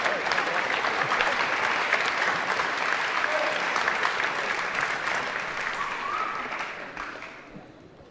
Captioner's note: applause